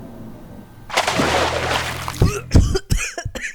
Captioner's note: couph